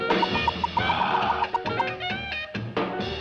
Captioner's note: moans